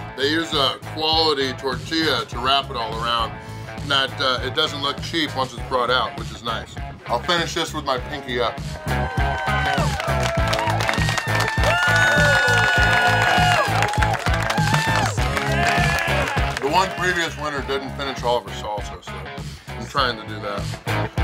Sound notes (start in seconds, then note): 8.8 crowd cheers, applauds; 9.0 funky rock music; 21.0 funky rock music